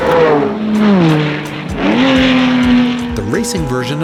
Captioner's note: engines revving